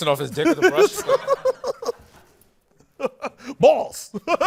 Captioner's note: laughter